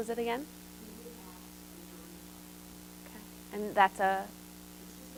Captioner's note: audience response